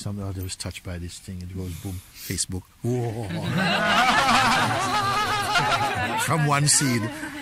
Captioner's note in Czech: smích